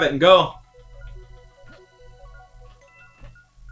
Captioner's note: bomb ticking